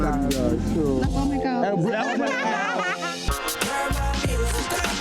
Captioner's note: laughs